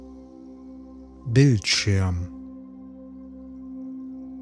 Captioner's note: german